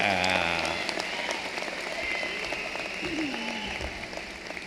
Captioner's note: cheering and applause